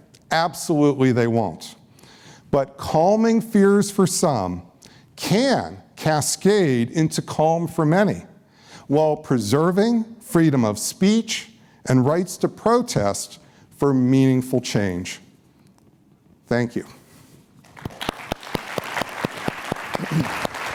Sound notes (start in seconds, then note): 17.6 applause